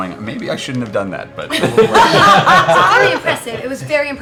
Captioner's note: laughter